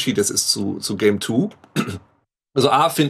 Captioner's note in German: Räuspern